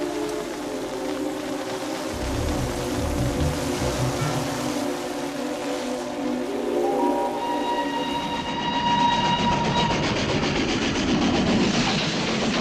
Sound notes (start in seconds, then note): 6.9 peluit kereta ditiup